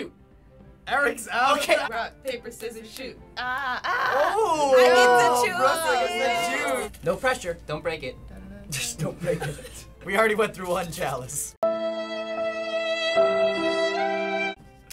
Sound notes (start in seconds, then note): 3.4 groans; 8.3 snickers; 11.6 depressing music